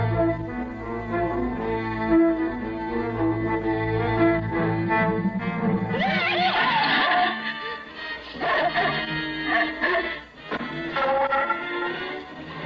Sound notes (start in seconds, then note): 5.7 yells; 7.6 angry barking